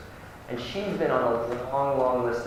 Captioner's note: audio warps